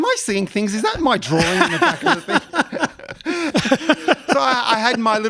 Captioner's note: laughs